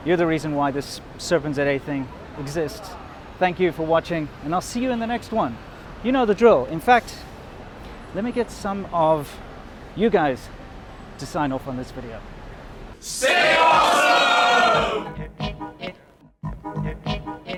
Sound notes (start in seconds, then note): 13.0 crowd